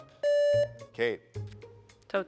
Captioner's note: buzzer beeps